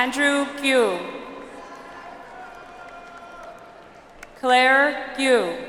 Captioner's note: audience applauds